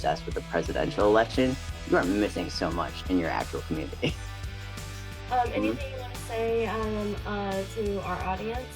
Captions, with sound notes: with the presidential election, you are missing so much in your actual community. (laughs) Anything you wanna say to our audience?